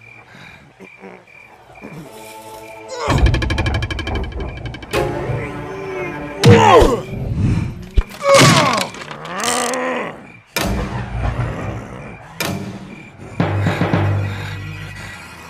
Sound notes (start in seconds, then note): 6.4 kick; 9.2 pain grunt; 10.7 thunder